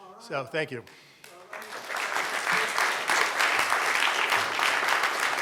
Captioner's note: audience applauding